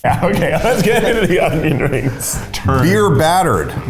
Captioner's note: laughing